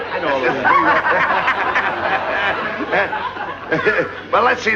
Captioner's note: laughter